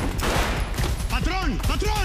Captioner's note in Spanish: Disparos